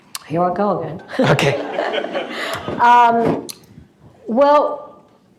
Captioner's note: laughter